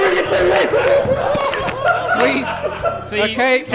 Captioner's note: laughter